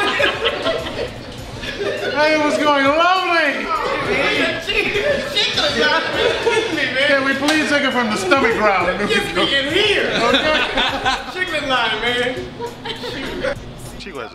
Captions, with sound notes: - [Voiceover] And it was going lovely. - He said chicklet. - [Voiceover] Can we please take it from the stomach growl. - Chicklet line man.